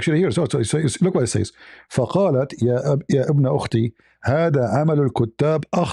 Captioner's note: Arabic